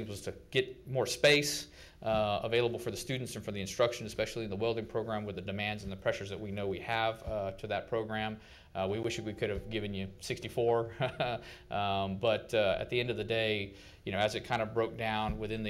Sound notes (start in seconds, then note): 10.9 chuckles